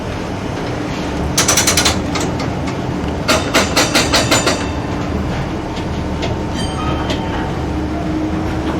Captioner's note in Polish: the sound of a moving streetcar